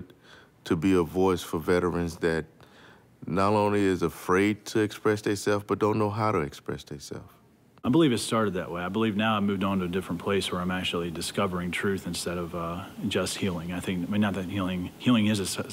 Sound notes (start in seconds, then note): none